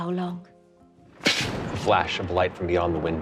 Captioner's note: thunder rumbles